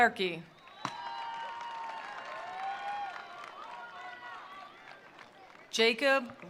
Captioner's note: attendees cheering; attendees applauding